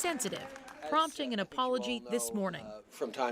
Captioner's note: cheering